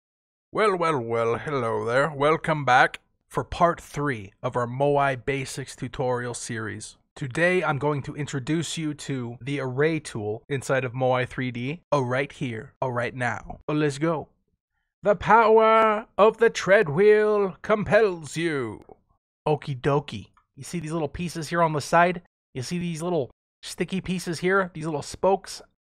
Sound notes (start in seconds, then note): 0.2 speaks in old British accent; 3.0 regular voice; 14.8 speaking in accent; 19.1 normal voice; 25.7 whispers